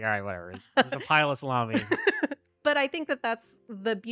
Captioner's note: laughing